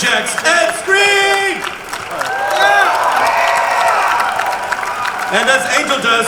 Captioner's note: crowd cheering